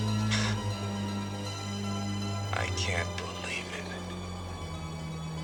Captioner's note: chuckles